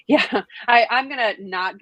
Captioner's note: chuckles